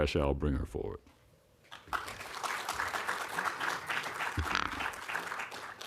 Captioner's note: applause